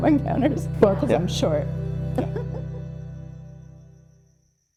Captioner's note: light laughter